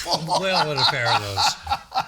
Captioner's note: laughing